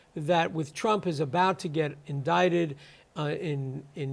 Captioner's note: none